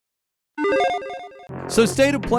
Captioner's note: electronic beeping